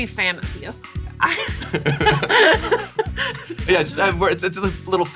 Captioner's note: laughs